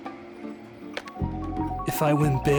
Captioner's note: slot Machine Whirs